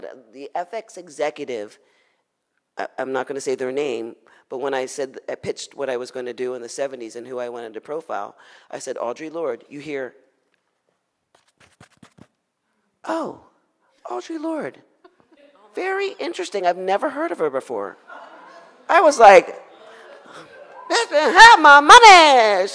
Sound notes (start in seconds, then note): 10.4 shuffling; 18.0 audience laughs